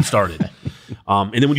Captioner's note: laughs